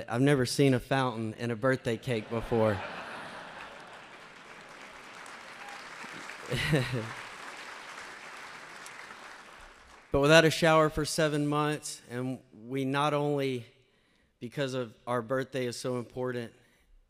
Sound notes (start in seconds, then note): 2.0 laughter and applause; 6.0 laughing